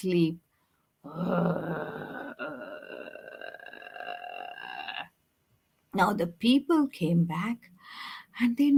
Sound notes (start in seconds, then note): 1.2 imitates tiger snoring; 8.1 gasps